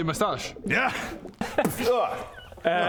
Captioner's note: boof!